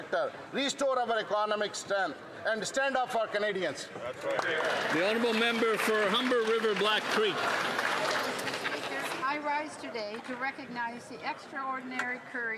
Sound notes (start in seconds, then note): 8.4 some Applause